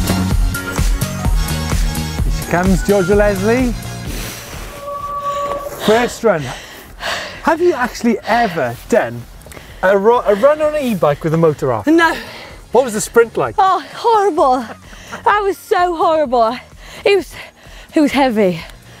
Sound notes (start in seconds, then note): 4.1 brakes Squeak; 12.0 out Of Breath